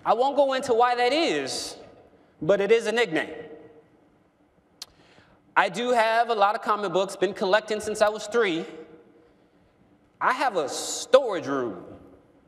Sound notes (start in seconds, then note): none